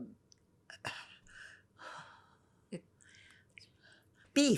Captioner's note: sighing